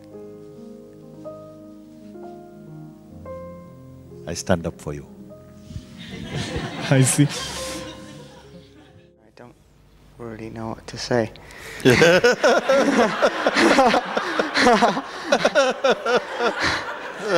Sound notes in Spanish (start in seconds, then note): 6.0 risas; 11.8 Mooji se ríe; 13.4 risas